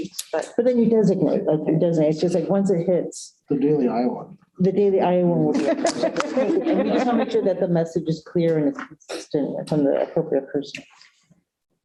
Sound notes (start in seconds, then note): 5.5 laughter